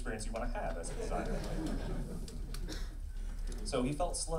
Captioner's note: laughing